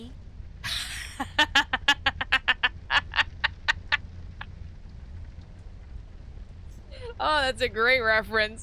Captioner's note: laughter